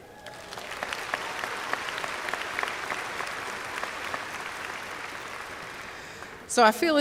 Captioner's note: applause